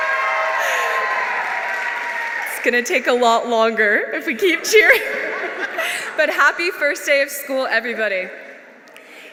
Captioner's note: applause